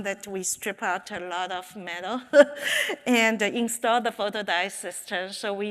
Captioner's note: chuckles